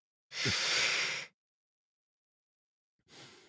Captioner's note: sharp inhalation